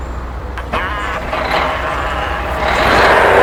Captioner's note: Mario laughing; machinery rumbling